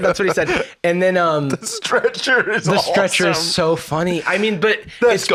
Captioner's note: laughing